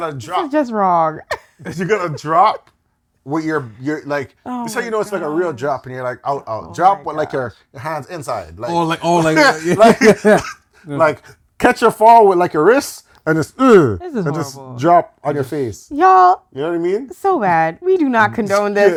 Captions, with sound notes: This is just wrong. You got to drop what you're-- like, it's like a real drop. And you're like, oh, oh. Drop with your hands inside. Oh, like-- oh, like-- [LAUGHTER] Like, catch your fall with your wrists and just, ugh. This is horrible. And just drop on your face. Y'all. You know what I mean? So bad. We do not condone this.